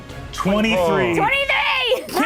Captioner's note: Lou groans